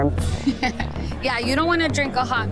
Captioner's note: laughs